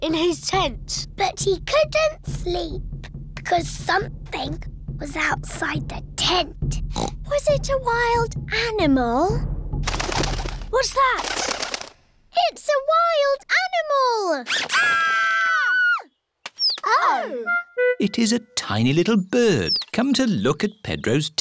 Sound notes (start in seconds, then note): 6.9 oinks; 9.8 fluttering; 14.6 all screaming